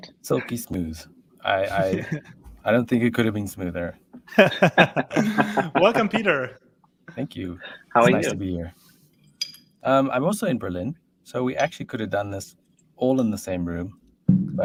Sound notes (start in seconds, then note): 4.2 laughs